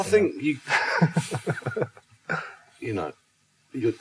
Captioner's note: laughs